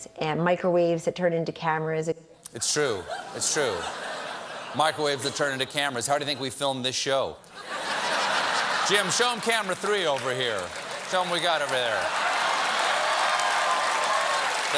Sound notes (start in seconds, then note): 4.0 laughter; 13.8 cheers and applause